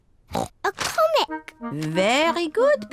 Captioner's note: oinks